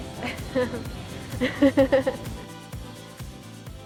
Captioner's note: laughs